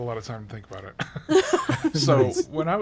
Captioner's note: group laughs